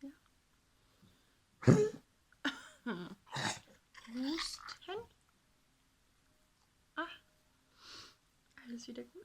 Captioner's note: my dog coughs